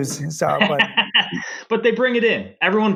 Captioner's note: laughing